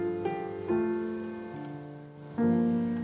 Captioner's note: none